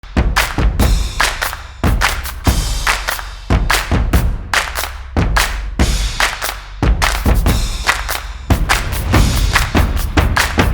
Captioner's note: fast rhythmic clapping; fast upbeat music